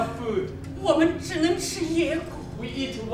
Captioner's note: speaking in a foreign language